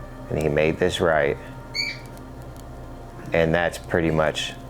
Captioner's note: bird squawking